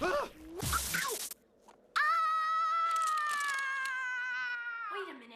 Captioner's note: ice cracking